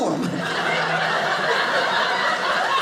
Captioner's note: audience laughing